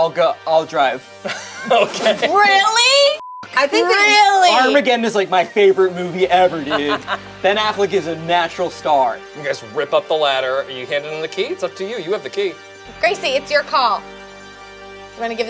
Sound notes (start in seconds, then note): 3.1 beep